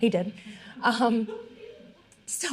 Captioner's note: all laughing